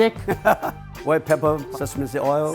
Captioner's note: laughing